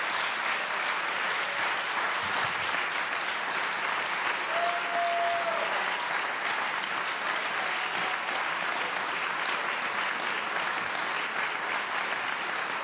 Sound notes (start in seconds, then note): 1.9 applause